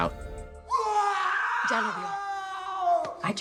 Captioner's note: Jaime screaming